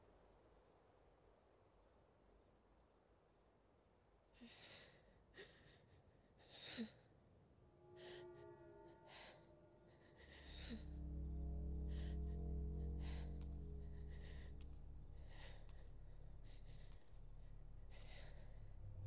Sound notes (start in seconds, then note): 6.4 shaky breathing